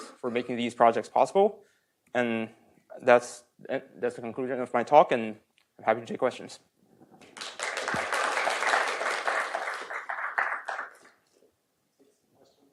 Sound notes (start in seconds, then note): 7.2 applause